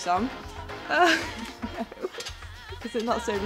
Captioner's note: laughing